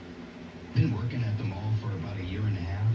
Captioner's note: on TV